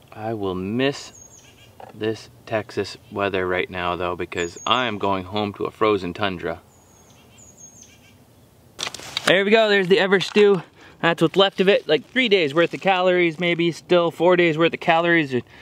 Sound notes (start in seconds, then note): none